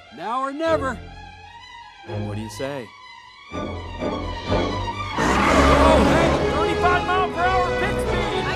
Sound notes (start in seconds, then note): 5.3 engine roars